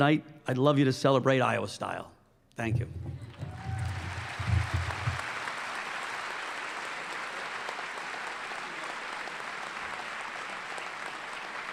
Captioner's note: applause